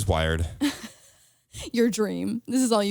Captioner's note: laughs